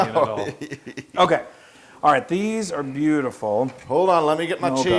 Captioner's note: laugh